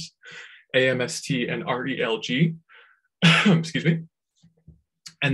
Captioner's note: coughs